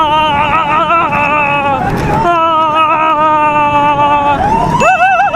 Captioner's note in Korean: 여기서부터는 과격한 움직임 때문에 나오는 비명